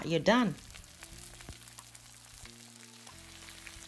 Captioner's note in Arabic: طعام أزيز